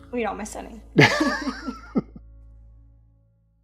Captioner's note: laughs